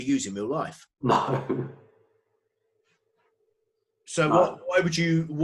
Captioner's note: laughs